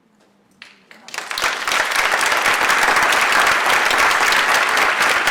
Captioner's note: audience applauds